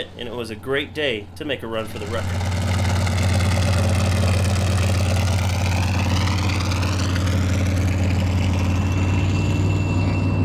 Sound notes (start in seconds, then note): 2.4 car engine rumbling